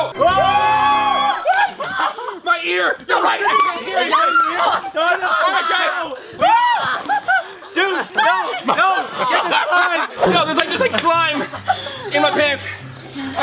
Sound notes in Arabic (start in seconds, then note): 0.0 موسيقى الانتصار; 4.2 تصرخ